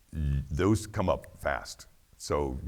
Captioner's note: snaps finger